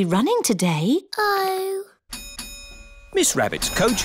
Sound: coach bell dings

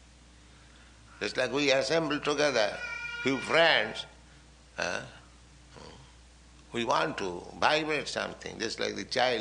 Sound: baby cries

